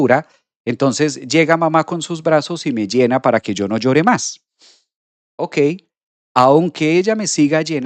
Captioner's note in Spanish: resoplido